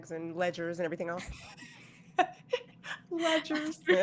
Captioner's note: laughing